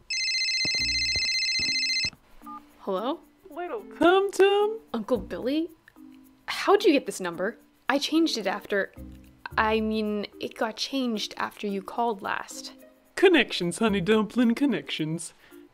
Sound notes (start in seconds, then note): 0.0 phone ringing; 3.7 in southern accent